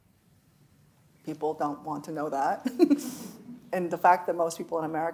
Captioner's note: chuckles